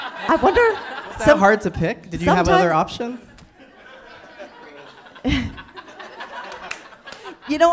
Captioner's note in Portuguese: rindo constrangida